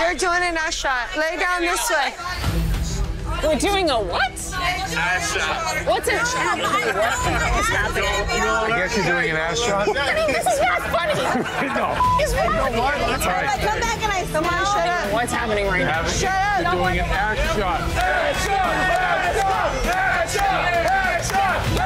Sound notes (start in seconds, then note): 9.7 laughing; 11.9 beep; 18.0 patrons chanting